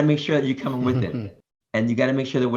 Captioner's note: chuckles